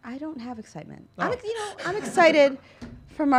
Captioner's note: laughs